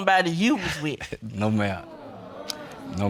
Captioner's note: chuckles